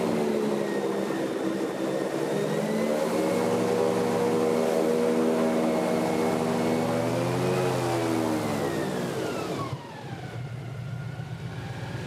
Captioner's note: airboat engine whirring